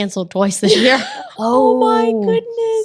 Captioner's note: ladies laughing